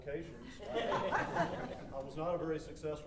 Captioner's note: audience laughing